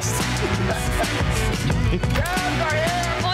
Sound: laughing

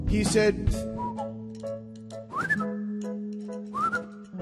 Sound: whistling

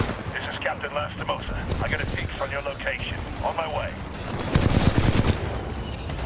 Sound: radio

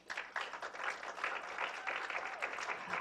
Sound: applause

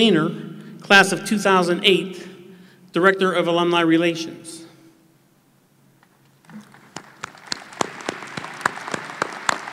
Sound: applause

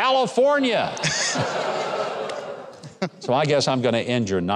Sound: crowd laughing

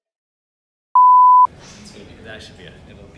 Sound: loud beep

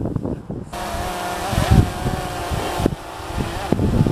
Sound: men cheering; drone whirring

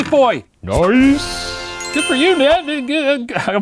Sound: celebratory music sting; ding

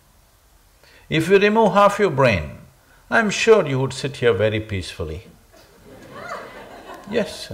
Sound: laughter

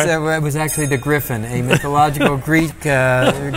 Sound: laughs

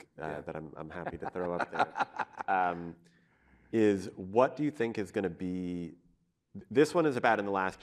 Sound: laughter

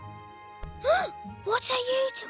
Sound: gasps

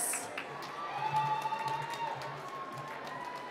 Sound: cheering

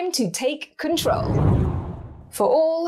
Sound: air whooshes

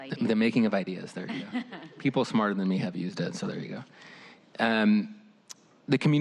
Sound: laughter

